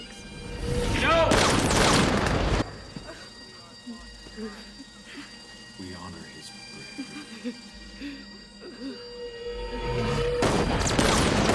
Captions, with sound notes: Thanks. - No! (gunfire) - (sobbing) - We honor his bravery. - (sobbing) (gunfire)